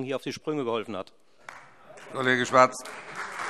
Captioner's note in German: Beifall Freie Demokraten und vereinzelt SPD